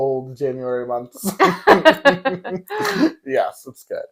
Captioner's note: laughing